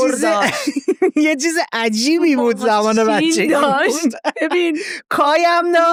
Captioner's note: laughs